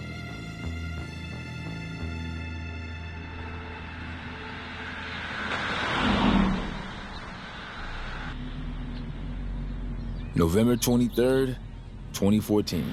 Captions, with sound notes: (cars whoosh past) November 23rd, 2014.